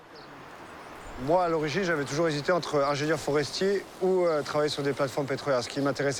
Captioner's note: speaking foreign language